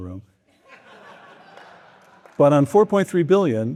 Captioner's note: audience laughing